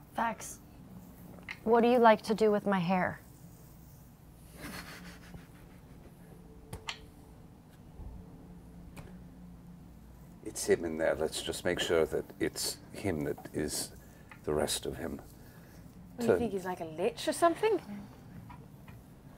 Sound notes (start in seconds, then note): 4.6 weak laughter